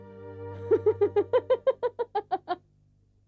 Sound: laughs

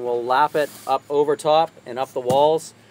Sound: hand swishes

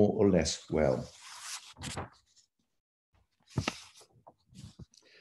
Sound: paper shuffling

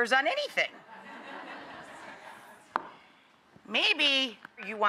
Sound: audience laughs

